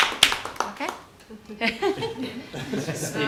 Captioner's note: applause